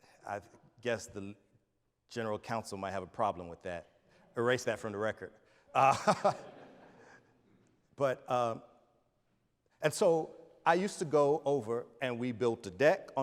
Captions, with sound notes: I guess the General Council might have a problem with that. Erase that from the record. (laughs) (audience laughs) And so I used to go over and we built the deck